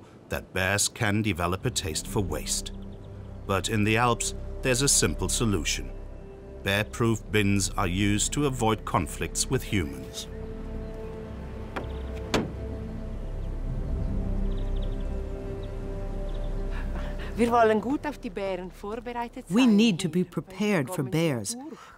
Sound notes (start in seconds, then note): 17.3 speaking in foreign language